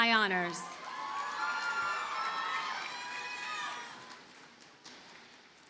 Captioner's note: audience cheers and applauds